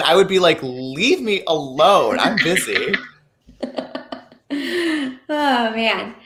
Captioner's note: laughing